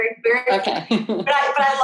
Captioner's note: chuckles